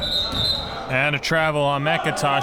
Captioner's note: whistle blows